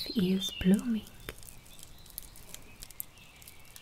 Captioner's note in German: Knistergeräusche